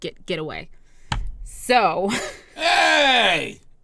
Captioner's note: laugh